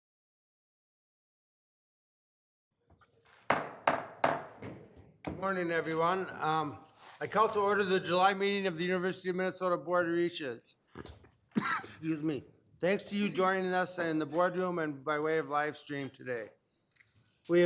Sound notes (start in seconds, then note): 3.4 pounding gavel; 11.4 coughing